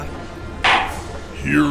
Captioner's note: gavel clack